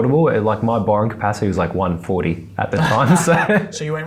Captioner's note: laughs